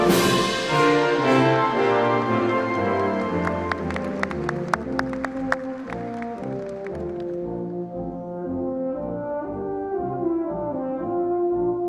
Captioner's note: applause